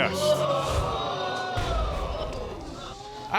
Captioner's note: audience gasps